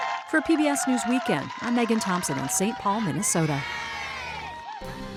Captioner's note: applause